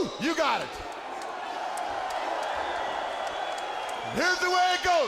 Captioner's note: audience cheering